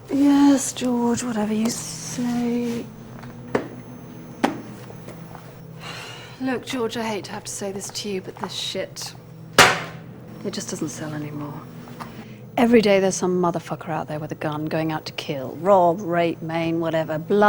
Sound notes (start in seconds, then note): 5.6 sighs; 9.5 slamming